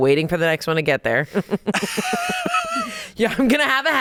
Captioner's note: laughs